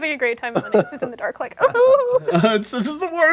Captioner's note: whimpers